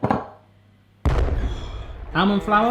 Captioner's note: explosion